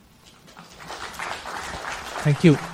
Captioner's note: applause